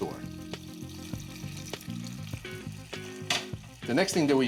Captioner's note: sizzling